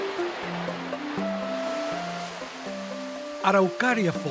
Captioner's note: rhythmic intrigue music; waterfalls sounds